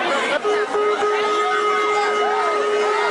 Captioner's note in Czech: houká siréna